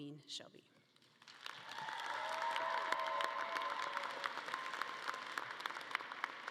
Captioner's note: audience cheering and clapping